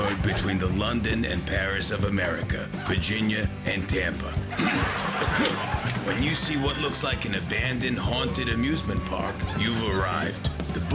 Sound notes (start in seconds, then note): 4.6 clearing throat